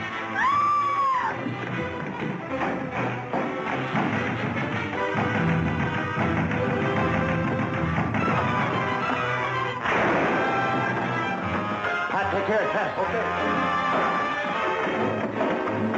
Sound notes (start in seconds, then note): 0.3 screaming; 3.2 frantic knocking; 9.8 gun firing; 13.8 pat